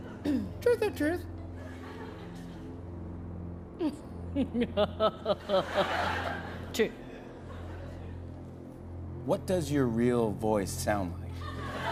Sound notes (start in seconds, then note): 4.3 scoffs, laughs